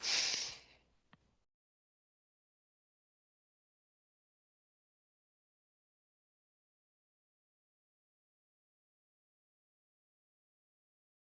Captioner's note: silence